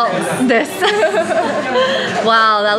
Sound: giggles

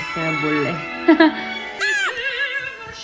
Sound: haha

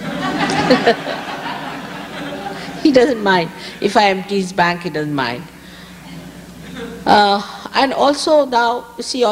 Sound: laughter

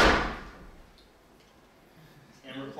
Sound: loud thump

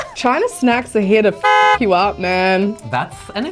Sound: laughs; horn honks

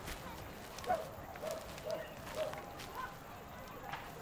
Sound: dog barking

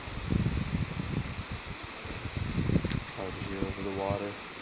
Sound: breeze blowing

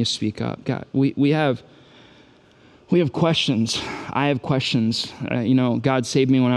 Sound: sighs

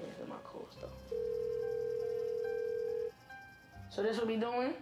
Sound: phone rings

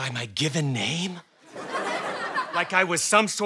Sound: audience laughter

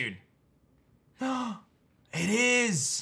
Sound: gasps

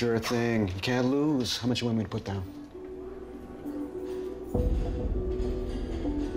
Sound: none

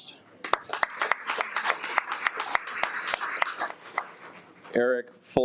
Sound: audience applauds

